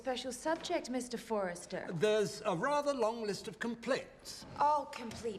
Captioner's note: none